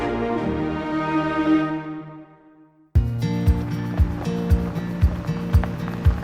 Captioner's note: running sounds getting closer